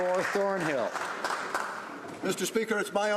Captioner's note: some Applause